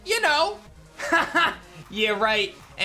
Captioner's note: laughs